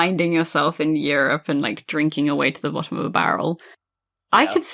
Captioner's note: laughs